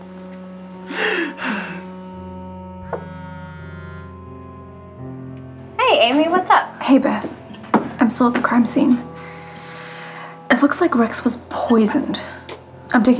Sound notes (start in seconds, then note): 3.2 cellphone buzzing